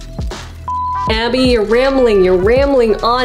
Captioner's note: beep